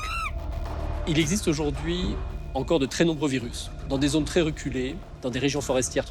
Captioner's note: speaks in foreign language